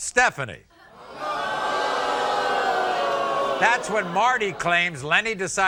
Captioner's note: audience boos